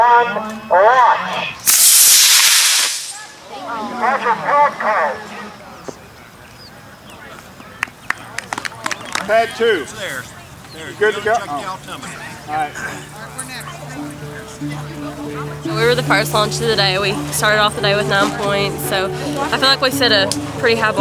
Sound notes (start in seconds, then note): 1.6 rocket launching; 7.7 clapping